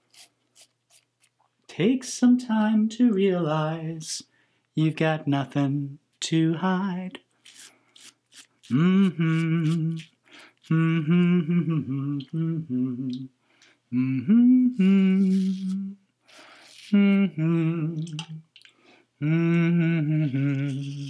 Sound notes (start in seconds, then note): 0.1 razor scratching; 7.4 razor scratching; 9.3 humming; 18.0 water swishing; 19.2 humming